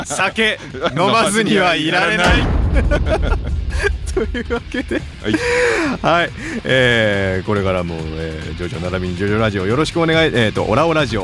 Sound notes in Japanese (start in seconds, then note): 0.0 笑い; 6.3 息をのむ音